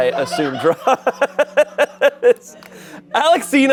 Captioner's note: Shayne laughs